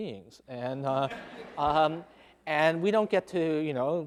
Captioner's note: laughing